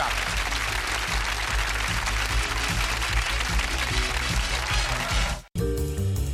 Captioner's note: applause